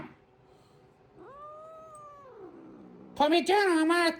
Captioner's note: Caprice growls